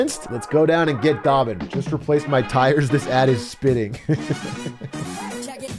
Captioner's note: laughs